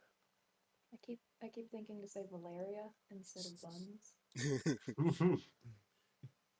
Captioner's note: chuckles